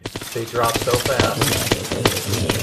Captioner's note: splat